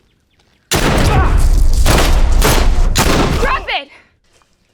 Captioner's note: guns firing